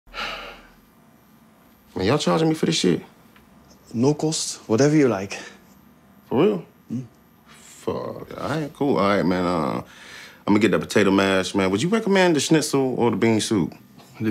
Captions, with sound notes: [SIGHS] Are you're charged me for this shit? No cost, whatever you like. - For real? - Mm-hmm. Fuck. All right, cool. All right, man, let me get the potato mash. Man, would you recommend the schnitzel or the bean soup?